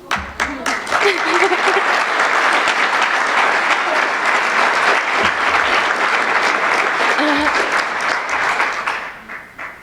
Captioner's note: applause